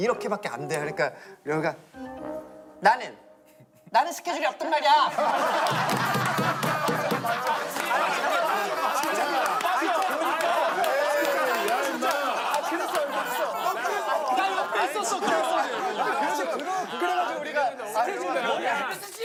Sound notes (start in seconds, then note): 5.3 laughter